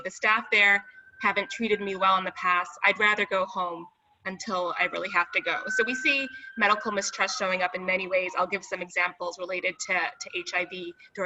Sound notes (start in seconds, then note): none